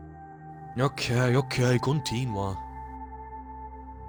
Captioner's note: renzo speaks italian